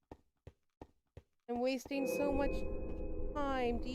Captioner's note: cave ambience plays